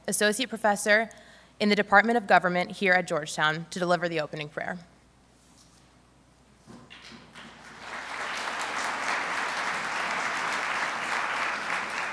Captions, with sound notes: associate professor in the Department of Government here at Georgetown to deliver the opening prayer. (audience applauding)